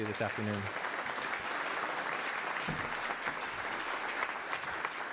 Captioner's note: applause